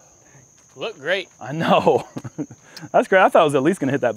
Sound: laughs

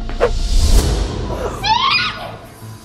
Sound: screaming

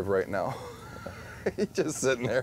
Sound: laughing

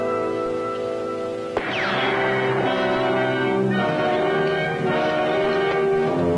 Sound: gunfire

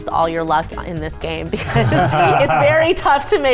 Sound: laughing

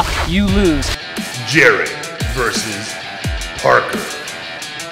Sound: voiceover

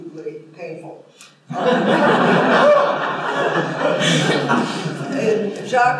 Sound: laughter

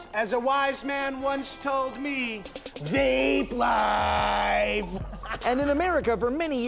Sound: laughing

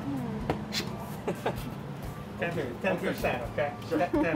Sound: laugh

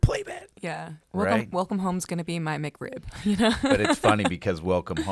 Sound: laughs

